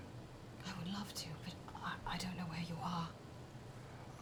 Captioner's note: whispering